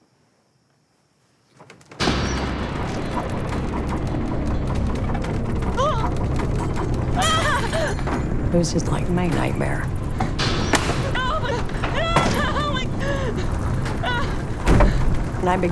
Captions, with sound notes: (rattling) (frightened shouting) It was just like my nightmare. (panicked shouting)